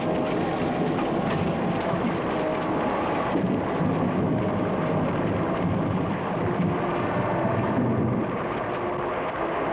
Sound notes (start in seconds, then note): 2.4 rain pours